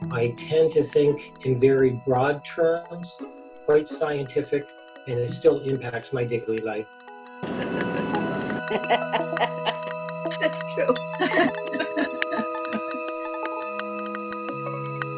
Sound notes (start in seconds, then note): 7.5 interviewees laughing; 11.0 laughing